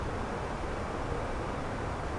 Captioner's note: radio chatter